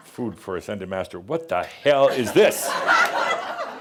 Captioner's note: laughter